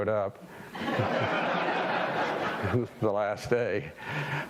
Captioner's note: audience laughing